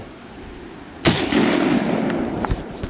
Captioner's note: gun shot